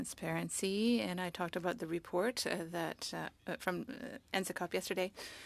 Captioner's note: speaking French